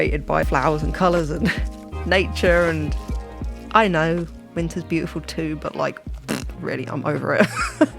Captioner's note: blows raspberry